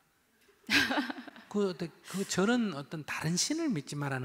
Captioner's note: questioner Laughter